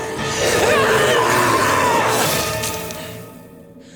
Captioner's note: screaming